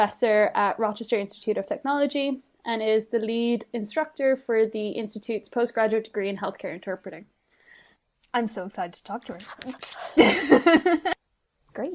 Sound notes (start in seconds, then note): 10.2 laughing